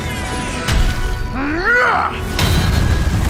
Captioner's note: grunts